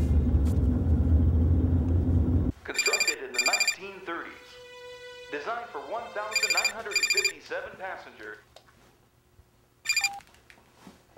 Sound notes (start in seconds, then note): 2.7 phone rings